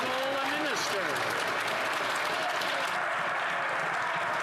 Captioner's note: some Applause